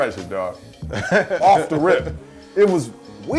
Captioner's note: laughs